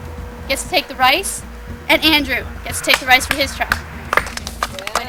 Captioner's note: clapping